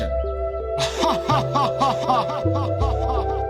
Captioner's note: evil laugh